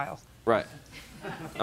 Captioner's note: laughter